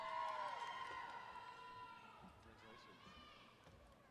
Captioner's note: applause